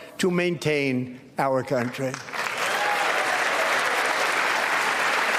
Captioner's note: applause